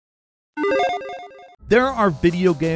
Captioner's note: electronic chiming